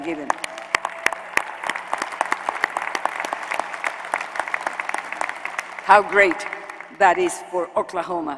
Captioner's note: applause